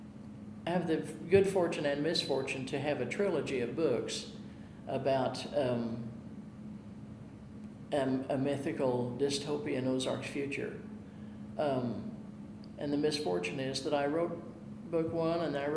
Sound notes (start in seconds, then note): none